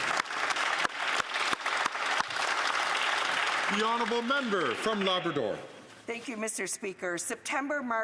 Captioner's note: some Applause